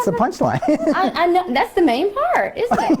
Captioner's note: laughs